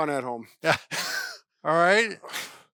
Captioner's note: laughing